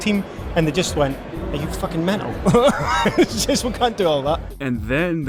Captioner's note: chuckles